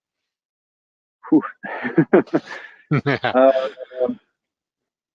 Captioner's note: laughter